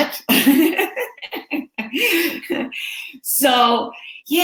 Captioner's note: laughing